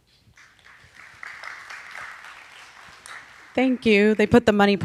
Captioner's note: audience applauding